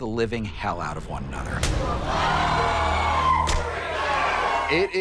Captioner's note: hands slapping; people cheering